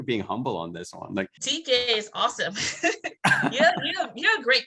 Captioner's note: laughs